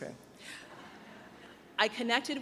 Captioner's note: audience chuckles